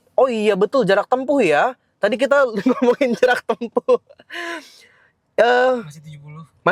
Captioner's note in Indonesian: tertawa